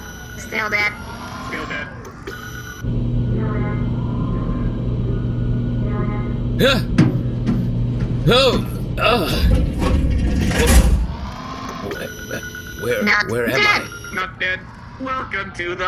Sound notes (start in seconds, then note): 11.8 scanner sound